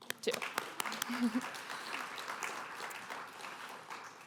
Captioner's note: applause